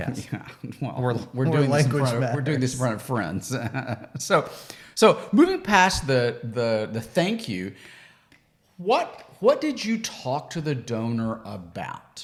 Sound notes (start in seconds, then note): 3.6 laughs